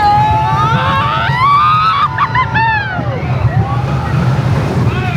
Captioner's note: riders yelling